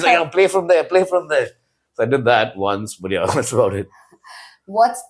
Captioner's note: laughs